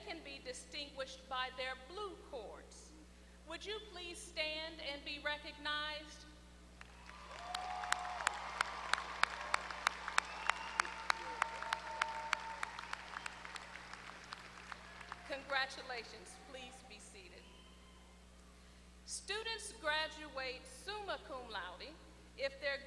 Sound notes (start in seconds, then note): 6.8 applause